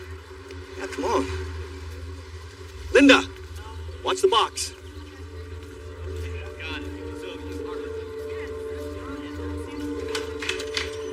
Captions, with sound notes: Yeah, , come on.n. Linda, w watch the boxox. [soft mumusic] [door creaeaks open]